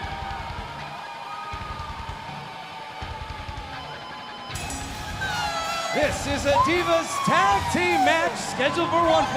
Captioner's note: bell ringing